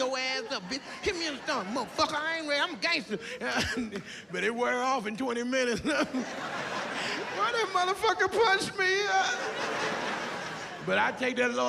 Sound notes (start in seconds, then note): 5.9 laughs